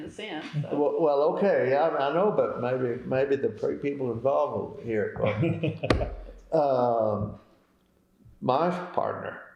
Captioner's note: laughter